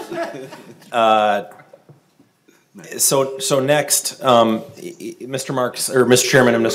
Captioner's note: laughing; laughing